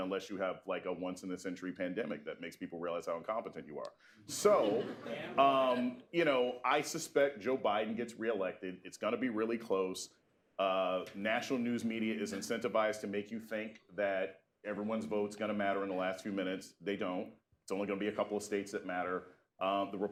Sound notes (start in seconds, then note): 4.3 laughter